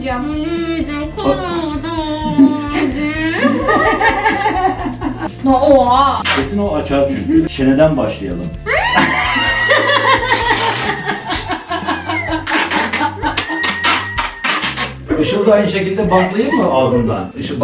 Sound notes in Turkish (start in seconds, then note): 2.3 Gülüşmeler; 8.7 Gülüşmeler